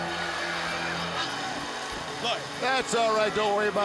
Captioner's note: crowd cheering